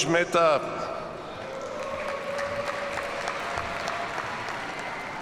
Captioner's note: audience applauds